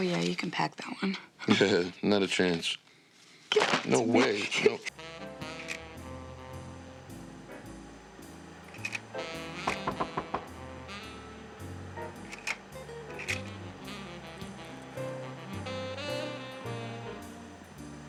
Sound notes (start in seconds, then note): 2.1 chuckles; 9.7 knock at door